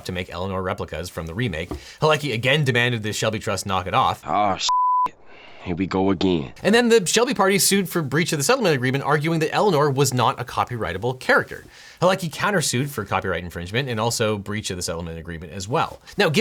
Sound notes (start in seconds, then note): 4.1 voiceover; 4.6 beep